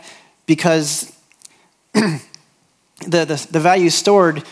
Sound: clears throat

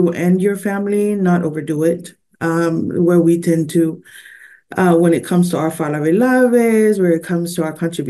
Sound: foreign language 00:27:23

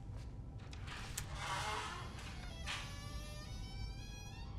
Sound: door creaks

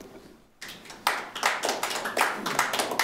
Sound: applause

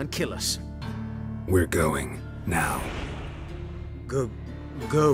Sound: magical whoosh

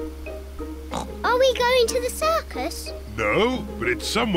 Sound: oinks

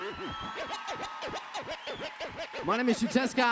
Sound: cheers

